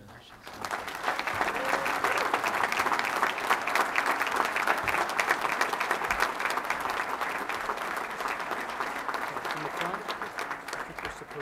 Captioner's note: applause